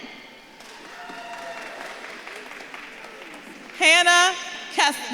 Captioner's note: audience claps and cheers